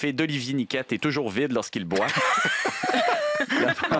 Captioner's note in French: rires